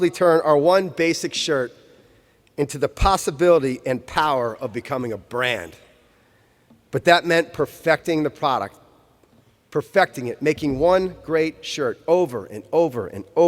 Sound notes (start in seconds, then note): none